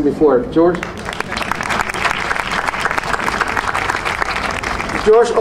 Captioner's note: audience applauding